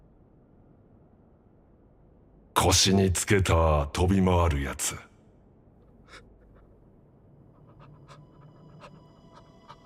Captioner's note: gasps, stammers